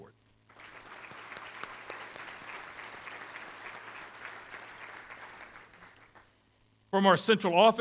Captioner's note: applause